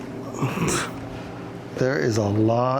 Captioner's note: grunts